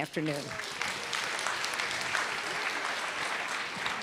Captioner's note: audience applause